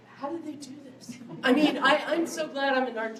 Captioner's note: laughter